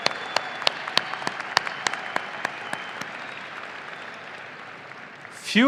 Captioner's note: audience applauding and cheering